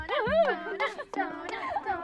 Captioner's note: chanting